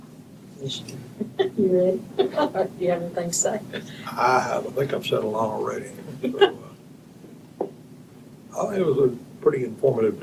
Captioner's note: laughter